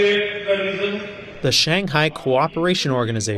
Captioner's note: through translator